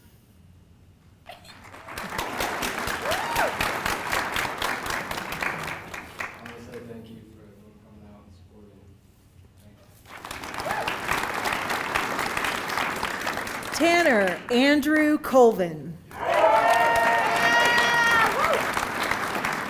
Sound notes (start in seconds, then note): 0.0 applause